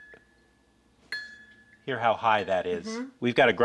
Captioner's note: dinging